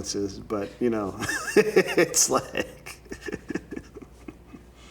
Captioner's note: laughing